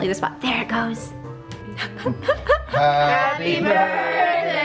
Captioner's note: laughing